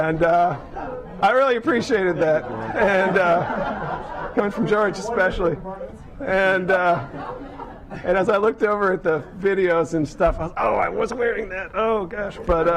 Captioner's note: laughter